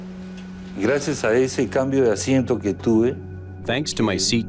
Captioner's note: speaking in Spanish